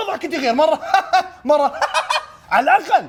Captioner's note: laughs; high pitch laugh